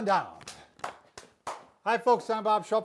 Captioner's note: hands clapping